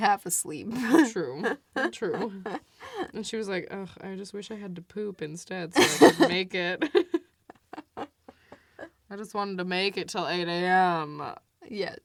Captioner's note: both laugh; laughs; both laugh